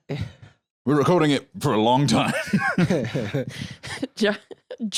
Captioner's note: both chuckling